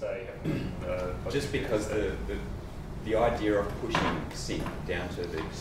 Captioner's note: voiceover